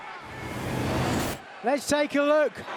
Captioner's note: whooshing sound plays